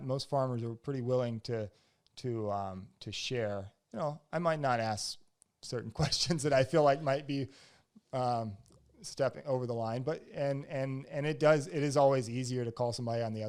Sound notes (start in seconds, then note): 5.9 laughs